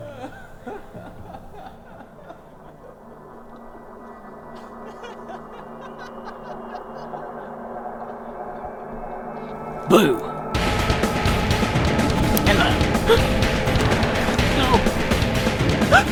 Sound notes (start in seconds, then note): 0.0 chuckling; 0.0 unsettling music; 10.3 intense music; 13.4 gasping